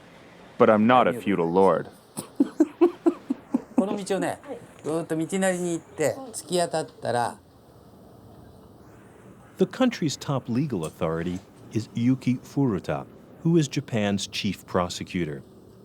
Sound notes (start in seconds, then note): 2.1 laughing; 4.4 speaking foreign language